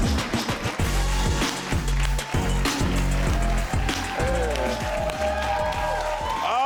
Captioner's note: audience clapping; upbeat music